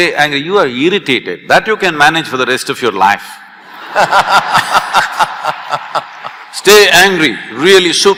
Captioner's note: laughter